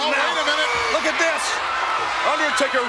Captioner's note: audience cheers